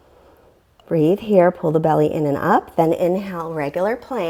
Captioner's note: deep breathing sounds